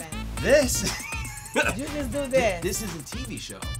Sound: laughs

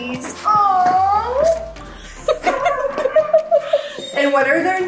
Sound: laughs

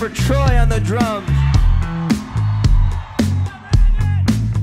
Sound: audience cheers

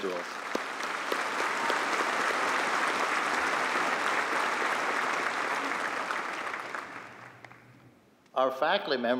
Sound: applause

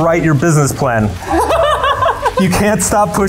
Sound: laughs

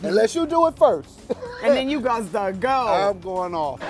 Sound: laugh

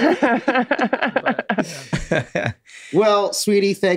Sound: group laughs

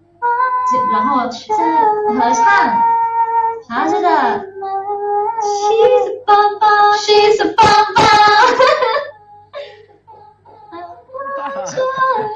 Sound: continue to hum the tune

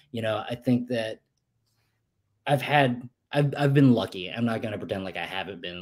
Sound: none

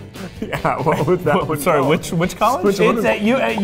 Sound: laughing

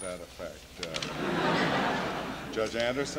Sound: laughter

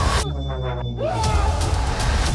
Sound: screaming

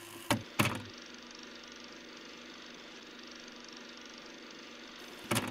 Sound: film projector clicks, running

